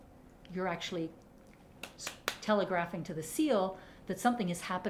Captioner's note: clapping